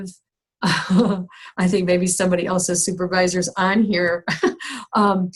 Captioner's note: laughs